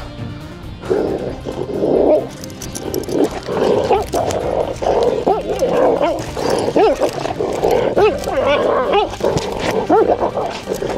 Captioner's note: growling, barking sounds and tension music